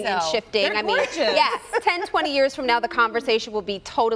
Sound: laughter

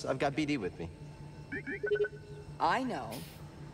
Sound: beep-beep-bo-boop

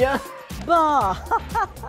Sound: laughs

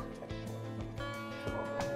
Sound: metal detector beeps

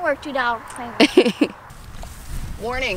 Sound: laughs

